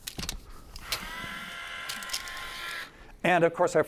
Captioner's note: tape measure extending